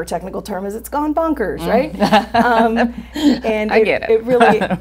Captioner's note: all laughing